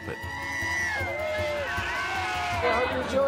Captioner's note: all cheering